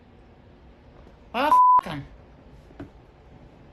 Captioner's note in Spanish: bip